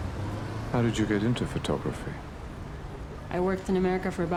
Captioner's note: voiceover